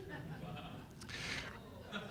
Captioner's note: laughter